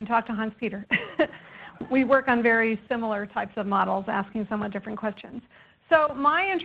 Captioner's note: laughter